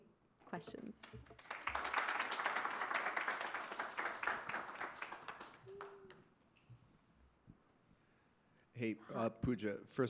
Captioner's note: applause